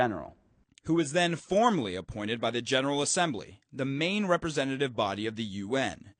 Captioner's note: voice-over